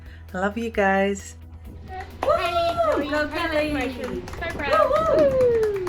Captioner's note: overlapping chatter